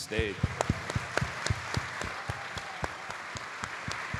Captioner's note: audience applauding